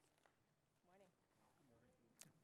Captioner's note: voiceover